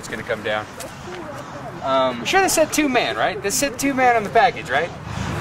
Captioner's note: talking